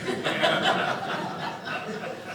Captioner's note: audience laughing